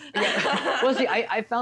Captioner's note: both laughs